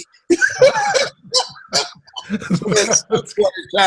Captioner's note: Les laughs